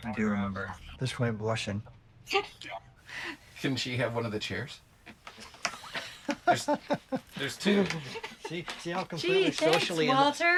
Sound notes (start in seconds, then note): 2.4 chuckles; 5.3 both chuckle